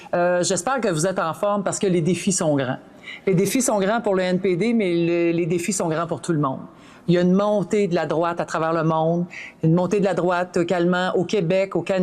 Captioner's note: speaking French